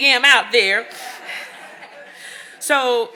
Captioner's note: audience laughing